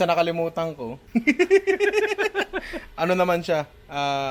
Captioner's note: laughter